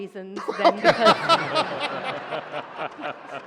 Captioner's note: laughter